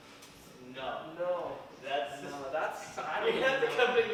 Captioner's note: group chattering